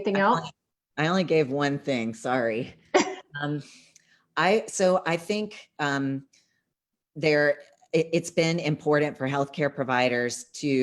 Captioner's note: laughter